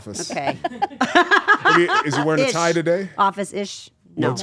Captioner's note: laugh